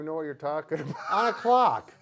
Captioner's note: laughing